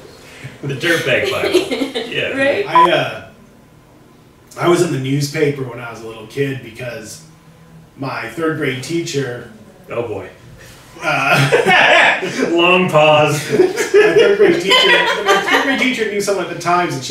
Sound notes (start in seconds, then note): 2.7 transition beep; 13.3 laughs